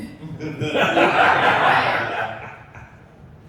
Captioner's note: laughter